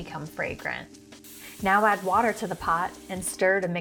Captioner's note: pot sizzling